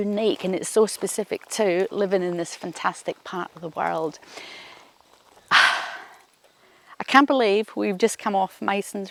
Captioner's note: sighs